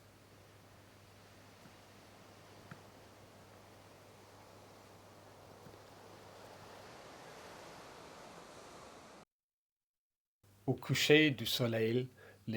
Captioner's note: silence